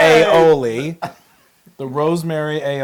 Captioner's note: laugh